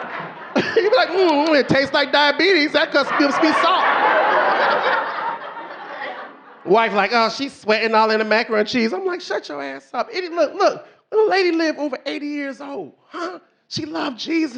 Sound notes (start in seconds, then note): 0.0 audience laughing; 1.8 laughs; 5.0 audience laughing